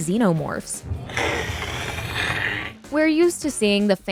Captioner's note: roaring sound